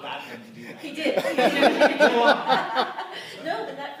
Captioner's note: laughter